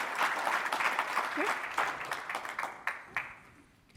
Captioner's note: applause